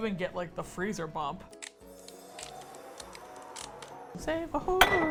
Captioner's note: wind whooshing, ice crackling; singing